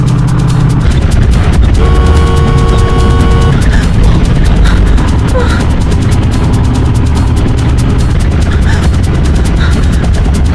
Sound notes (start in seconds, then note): 1.6 car horn honks